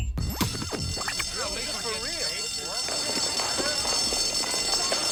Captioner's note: alarm bell ringing